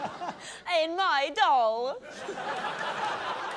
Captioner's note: laughter; laughter